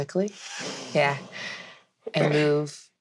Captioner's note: gasps